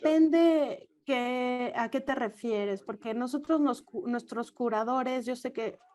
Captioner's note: offscreen speaker in foreign language